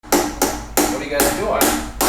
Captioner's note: hammering